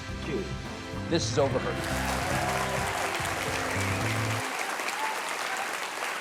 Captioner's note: audience applauds